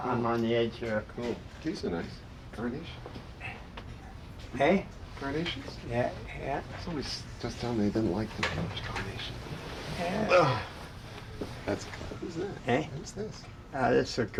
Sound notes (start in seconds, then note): 10.0 grunts